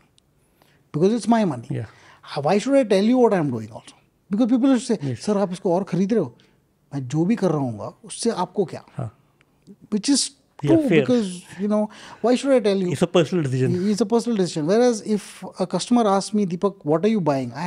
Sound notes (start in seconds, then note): 8.6 speaks in Hindi